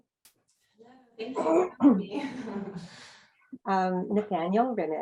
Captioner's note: laughs